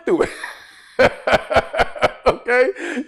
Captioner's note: laughs